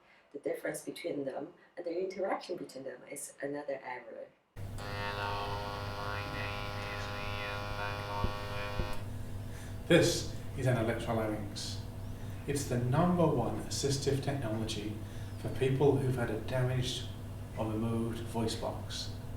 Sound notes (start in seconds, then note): 5.8 electrolarynx